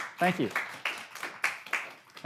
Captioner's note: applause